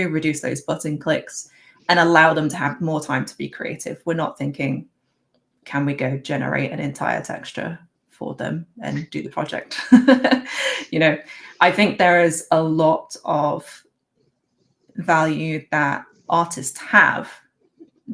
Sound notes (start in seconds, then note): 9.9 laughs